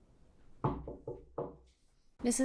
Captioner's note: hand knocking